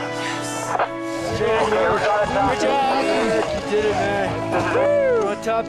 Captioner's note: congratulations and cheers